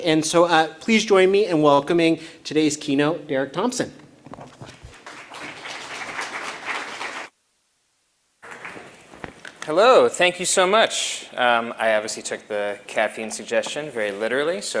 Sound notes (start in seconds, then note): 4.7 applause